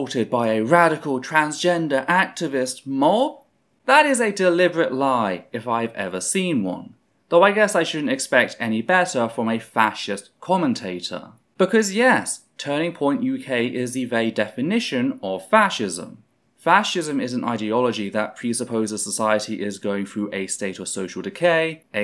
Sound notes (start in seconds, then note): none